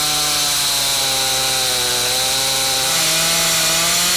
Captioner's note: chainsaw humming